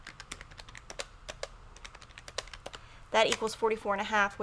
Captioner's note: keys clicking